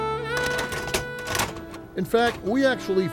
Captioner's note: video player rattling